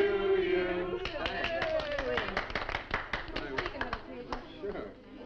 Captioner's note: people applauding